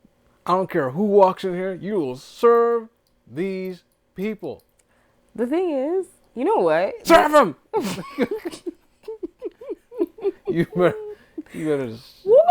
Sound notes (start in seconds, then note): 7.7 laughing